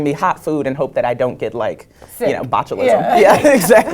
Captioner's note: laugh